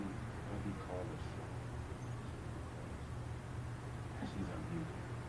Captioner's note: person speaking off mic